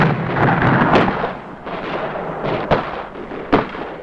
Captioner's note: grenade booming